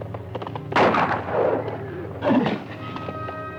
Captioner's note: gun fires